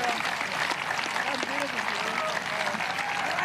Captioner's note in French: applause